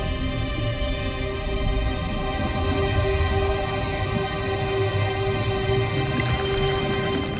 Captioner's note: music swells; water gurgling; music fades